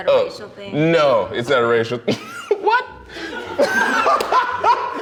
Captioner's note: laughs